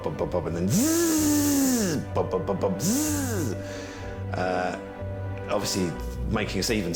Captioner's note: imitates engine